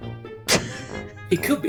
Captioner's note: chuckles